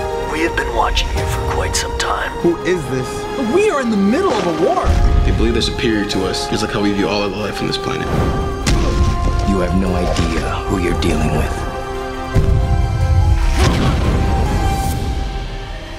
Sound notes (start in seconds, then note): 4.9 explosion; 8.6 slam; 13.4 explosion; 13.5 boom